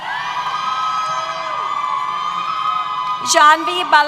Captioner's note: cheers